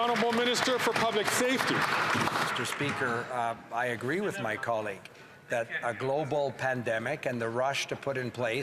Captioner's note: some Applause